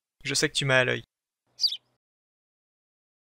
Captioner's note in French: chant d’oiseau